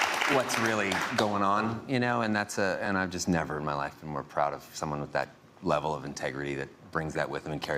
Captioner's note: applause